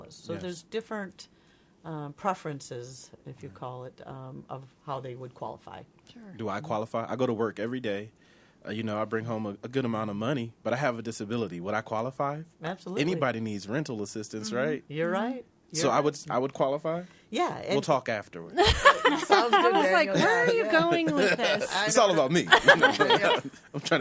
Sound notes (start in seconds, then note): 18.6 others laughing